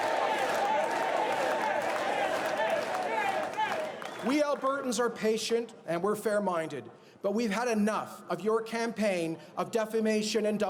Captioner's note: chanting jason